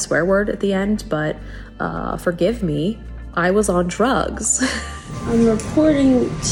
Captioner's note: laughs